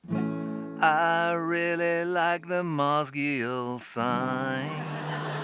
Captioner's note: laughter